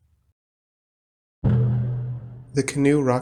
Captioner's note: thud!